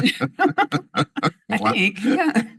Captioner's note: laughter